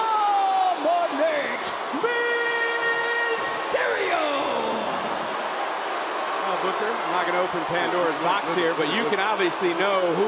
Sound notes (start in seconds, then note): 4.9 crowd boos